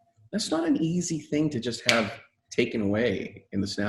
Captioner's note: fingers snapping